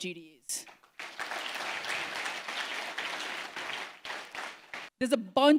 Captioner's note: applause